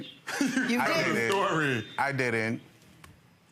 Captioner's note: laughs